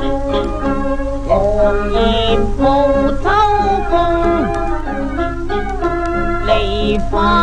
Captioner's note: autumn wind